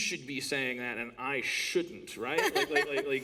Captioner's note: laughter